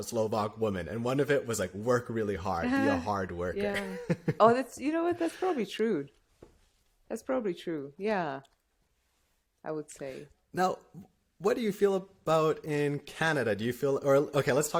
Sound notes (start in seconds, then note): 3.6 laughter